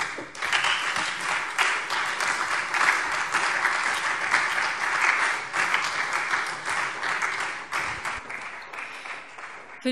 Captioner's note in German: Beifall Freie Demokraten und SPD